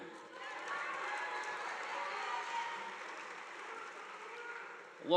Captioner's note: audience applauding